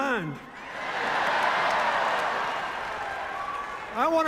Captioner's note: cheers, applause